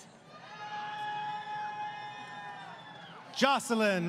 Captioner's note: crowd Cheering